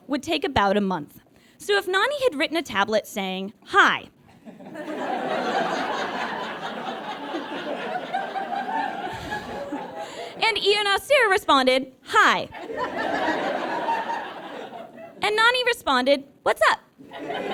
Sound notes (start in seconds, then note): 4.4 audience laughs in crescendo; 12.6 audience laughs; 17.0 audience laughs